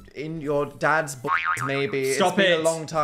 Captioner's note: spring reverberating